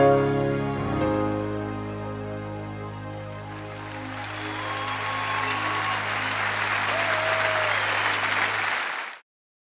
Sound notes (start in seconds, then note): 3.2 audience applauding; 3.3 audience cheering